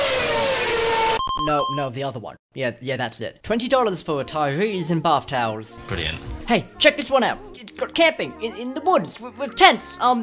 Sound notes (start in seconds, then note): none